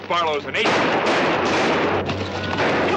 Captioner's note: gunshots